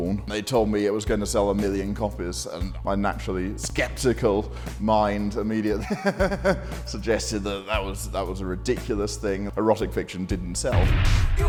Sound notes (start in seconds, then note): 5.8 laughs